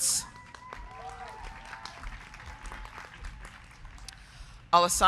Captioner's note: crowd clapping; crowd cheering